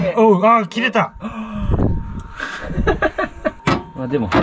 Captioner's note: laugh